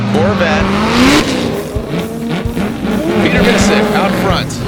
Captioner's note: engines revving